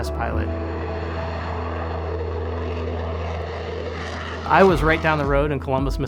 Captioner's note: aircraft roaring